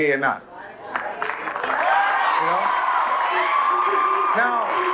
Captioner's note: applause